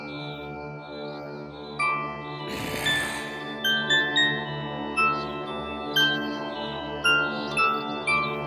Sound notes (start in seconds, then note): 2.4 growling